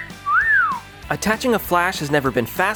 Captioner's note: whistle